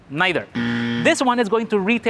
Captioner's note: wrong buzzer sound